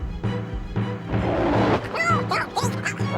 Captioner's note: intense music; Scarface roars; Tasha babbles